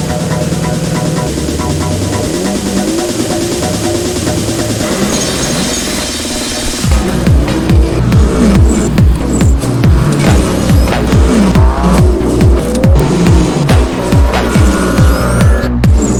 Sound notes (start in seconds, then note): 2.4 engines revving